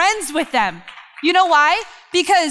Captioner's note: crowd applause